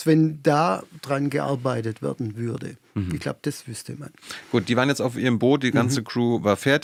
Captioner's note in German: räuspern